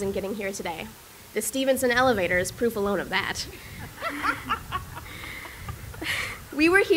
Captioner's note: laughter